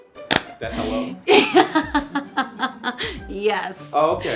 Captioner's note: laughing loudly